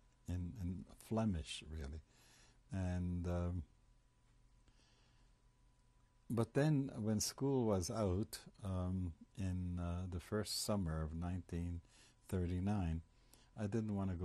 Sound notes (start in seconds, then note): 3.3 pauses for 3 seconds